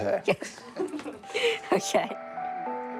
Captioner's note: laughs